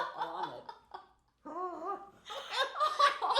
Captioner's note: laughing; laughing